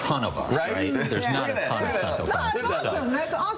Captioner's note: laughter